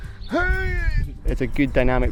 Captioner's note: groaning